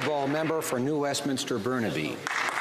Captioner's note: some Applause